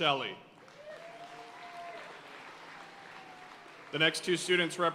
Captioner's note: audience cheering and applauding